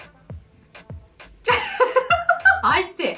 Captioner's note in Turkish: Gülüşmeler